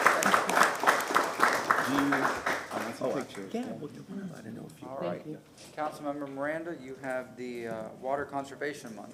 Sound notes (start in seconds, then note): 2.1 applause